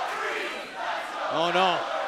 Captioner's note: crowd cheering